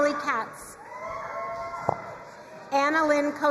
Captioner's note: crowd cheering and applauding